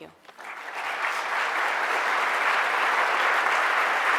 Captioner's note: audience applause